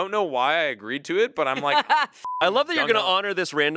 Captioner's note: beep